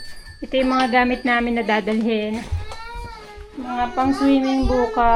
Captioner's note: crying